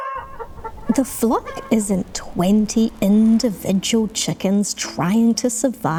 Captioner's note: chickens clucking